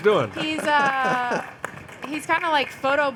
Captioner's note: laughing